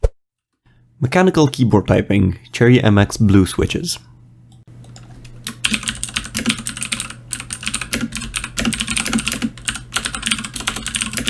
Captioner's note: Mechanical keyboard typing - Cherry MX Blue Switches